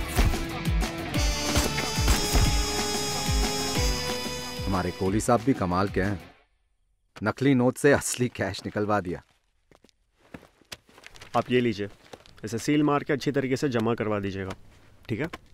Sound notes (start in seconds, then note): 1.9 Gunshots